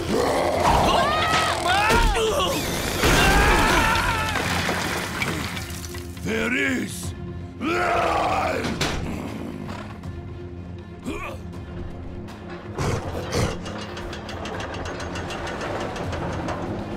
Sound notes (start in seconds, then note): 0.0 screaming; 7.2 grunting; 10.8 grunting; 12.1 clanking